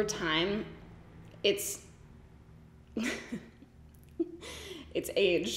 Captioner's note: giggles